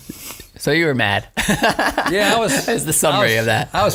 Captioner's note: laughing